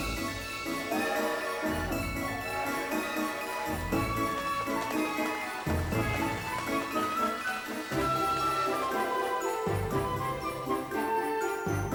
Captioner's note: train whistle blowing